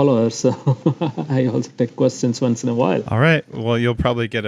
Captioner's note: laughs